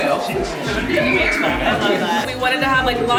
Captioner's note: guests chattering; kids screaming